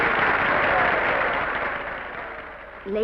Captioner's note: applause petering out